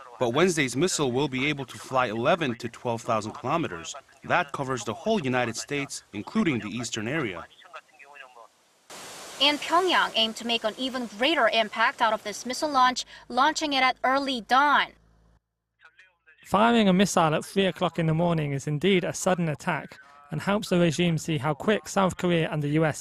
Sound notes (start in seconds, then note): 14.9 Korean